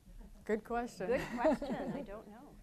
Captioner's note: all laughing